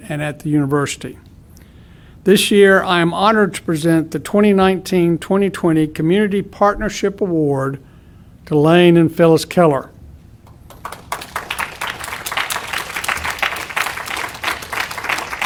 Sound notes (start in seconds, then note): 10.4 audience applauding